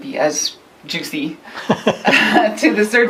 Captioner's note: laughs